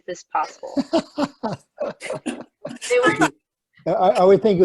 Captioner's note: laughter